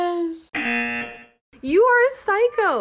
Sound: buzzer rings

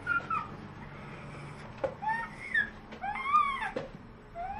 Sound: squeals

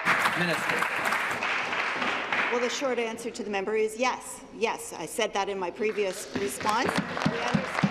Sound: applause

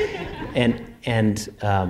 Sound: laughter

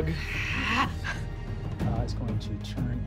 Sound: gasps

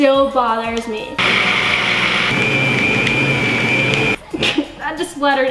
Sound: blender running

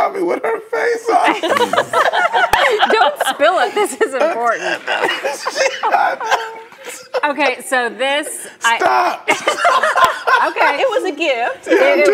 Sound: laughter

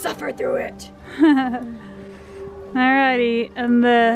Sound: laughs

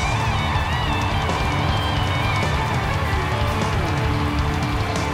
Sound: crowd cheering

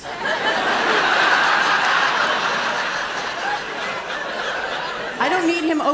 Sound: laughter

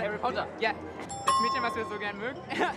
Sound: speaks German; ding; speaks German

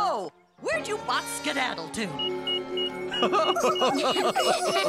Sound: laughing

